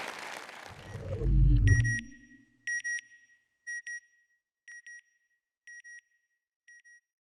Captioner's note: applause; beeping